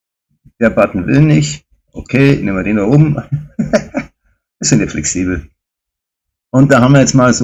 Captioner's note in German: gelächter